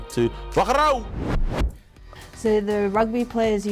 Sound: speaking foreign language

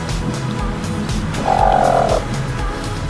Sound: gentle squawking

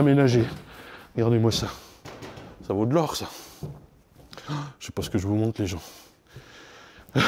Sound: laugh

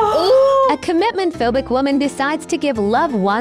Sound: AI Voice

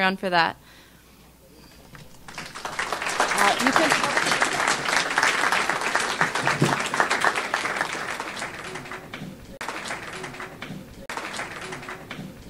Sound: audience applauds

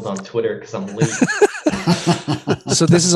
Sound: laughter

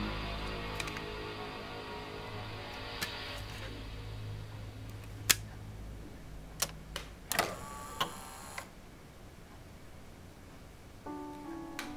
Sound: clicking, CD Drive

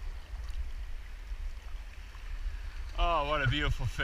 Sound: swashing

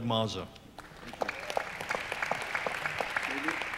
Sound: audience applauds

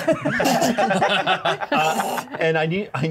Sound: co-host imitates choking

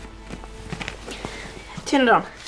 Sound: breathes heavily

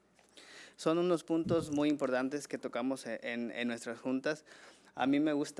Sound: man speaking foreign language

